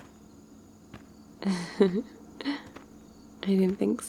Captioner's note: laughs